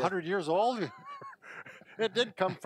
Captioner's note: laughter